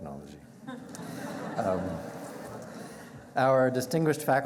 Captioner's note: chuckling